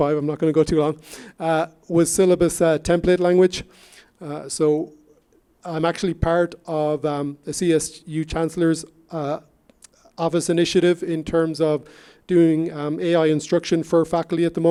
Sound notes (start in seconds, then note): none